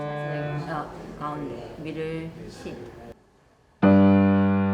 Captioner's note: piano music; teacher speaking in foreign language; upbeat piano music